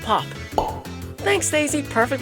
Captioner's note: pop sound effect